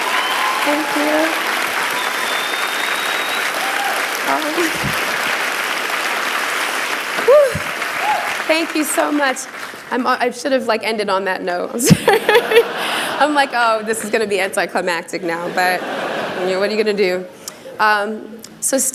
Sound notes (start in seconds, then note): 11.8 laughter